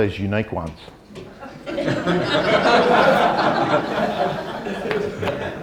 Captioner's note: audience laughter